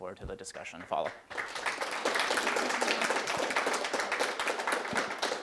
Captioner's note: attendees applauding